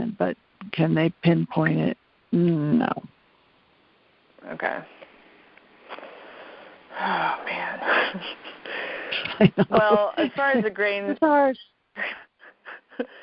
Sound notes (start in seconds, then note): 5.9 sighs; 7.8 laughs; 12.0 laughs